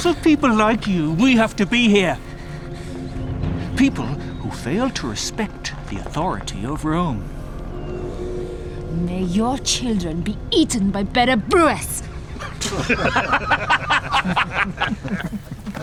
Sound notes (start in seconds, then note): 12.2 men laughing